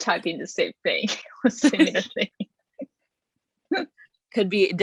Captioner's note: chuckles